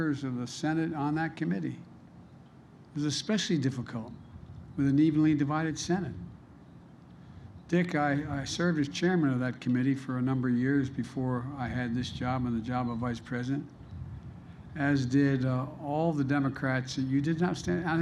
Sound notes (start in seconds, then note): none